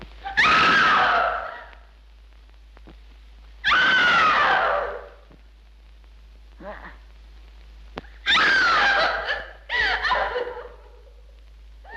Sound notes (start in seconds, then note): 0.1 Madeline screams; 8.2 Madeline screams; 8.6 Madeline sobs